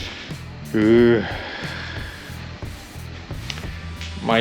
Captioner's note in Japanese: 息をのむ音